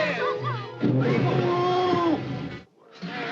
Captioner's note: Cowardly Lion roaring; all scream; Cowardly Lion snarling